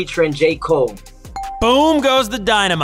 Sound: ding

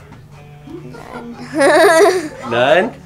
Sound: laughs

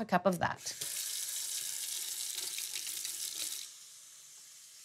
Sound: water flowing

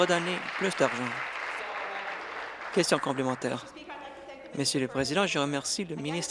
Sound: applause

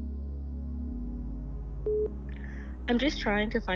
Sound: phone beeps

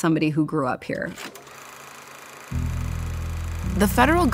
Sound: film projector whirs

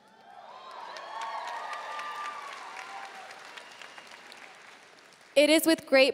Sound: audience cheering and applauding

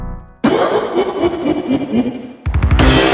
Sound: Kefka Laugh

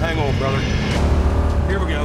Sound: engine revs

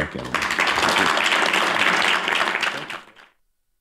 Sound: applause

